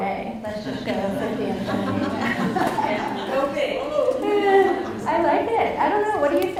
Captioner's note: audience laughs; laughs